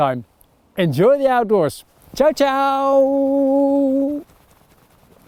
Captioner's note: speaks Dutch